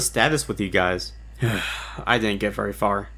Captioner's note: sighs